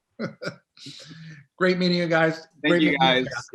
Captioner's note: laughs